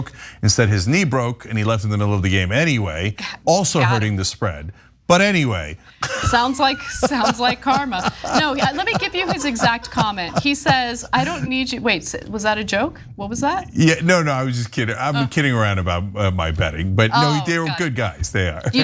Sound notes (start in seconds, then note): 6.0 laugh